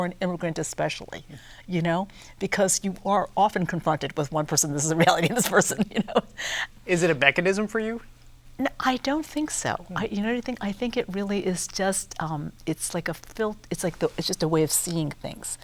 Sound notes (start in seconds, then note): 4.9 chuckles